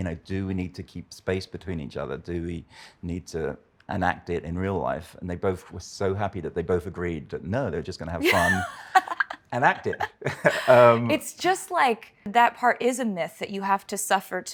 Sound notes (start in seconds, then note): 8.2 laughs